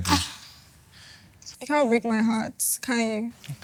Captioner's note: laughs